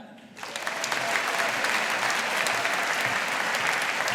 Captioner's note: audience applauding